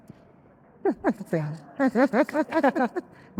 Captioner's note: group laughing